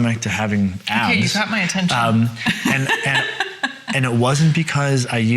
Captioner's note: laughs